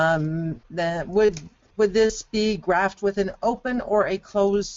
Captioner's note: voiceover